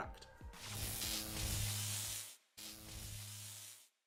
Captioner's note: electricity buzzing